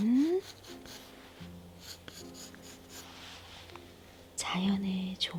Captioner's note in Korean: 슥슥슥 연필 소리